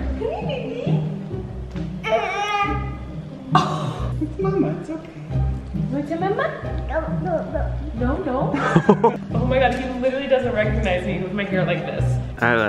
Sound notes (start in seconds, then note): 2.0 cries; 8.5 laughs